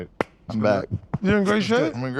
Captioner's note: hands smack